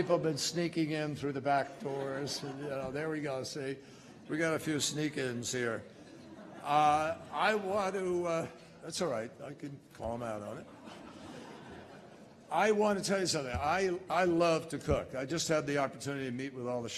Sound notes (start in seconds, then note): 10.5 laughter